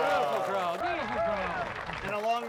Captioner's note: audience applauding